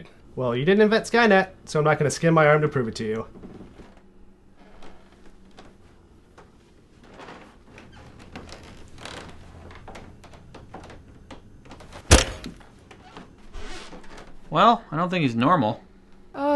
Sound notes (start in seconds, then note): 12.0 plastic crunch